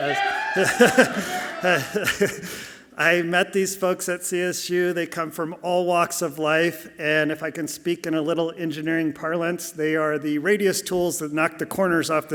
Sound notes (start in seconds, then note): 0.6 laughs softly